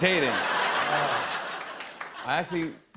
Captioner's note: laughter